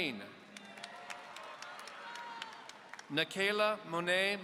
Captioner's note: audience applauding